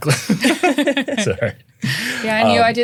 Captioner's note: everyone laughing